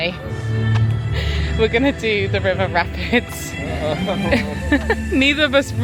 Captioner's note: dramatic music; laughing